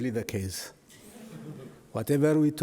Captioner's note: audience laughs